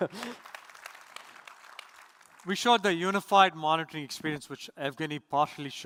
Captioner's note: applause